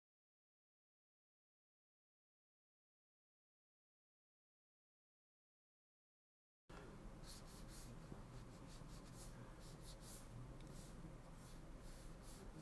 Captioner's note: silence